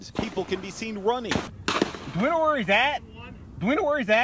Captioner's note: gunshots